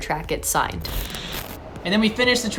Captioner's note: static